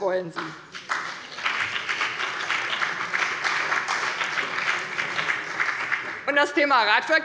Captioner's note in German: Beifall bei der CDU und dem BÜNDNIS 90/DIE GRÜNEN